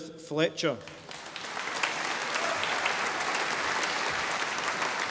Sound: audience applauding

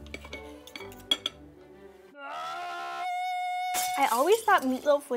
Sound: utensils scraping; man screaming

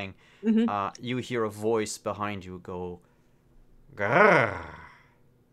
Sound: growl

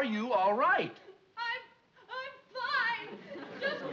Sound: sobbing

